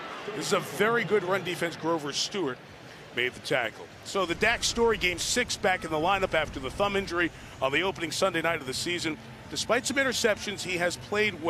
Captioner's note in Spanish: en ingles